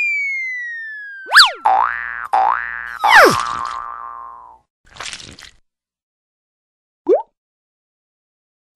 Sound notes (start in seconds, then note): 1.2 boinging